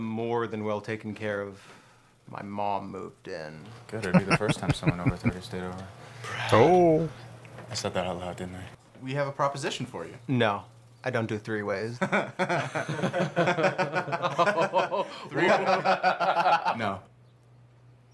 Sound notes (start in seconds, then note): 4.0 laughing